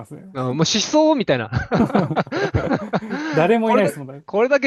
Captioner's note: laughter